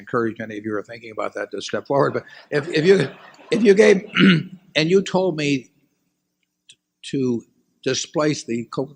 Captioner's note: laughter